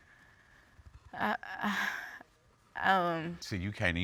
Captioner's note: sighs